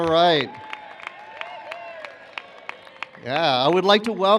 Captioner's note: cheers